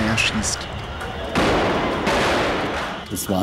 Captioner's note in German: Schüsse